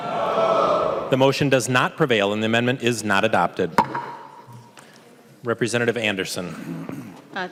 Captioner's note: chorus of ayes